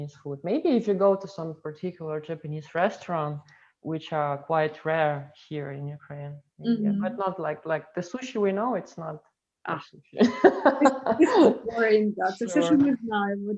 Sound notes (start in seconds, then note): 10.2 laugh